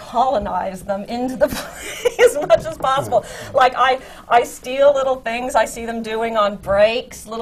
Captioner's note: laughs